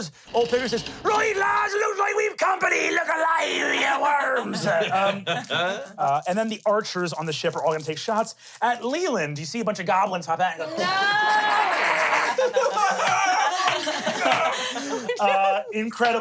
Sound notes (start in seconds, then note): 4.4 laughs; 10.7 everyone laughs